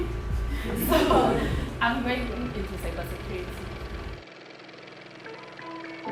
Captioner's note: audience laughing